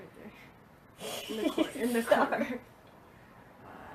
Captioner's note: laughs